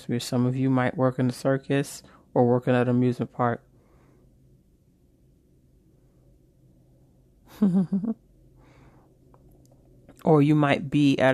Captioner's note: chuckles